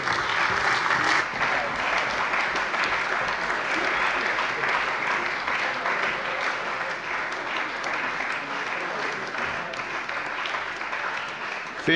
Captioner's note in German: Beifall bei der CDU und dem BÜNDNIS 90/DIE GRÜNEN